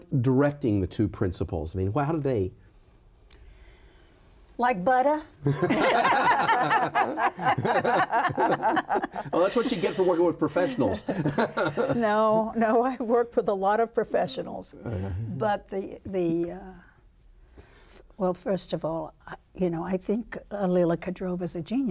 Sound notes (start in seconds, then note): 5.5 all laughing; 10.9 laughing